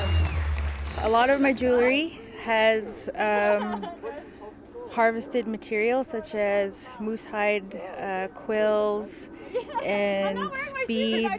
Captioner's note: cheers and Applause